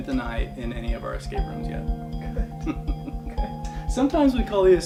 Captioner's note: laughs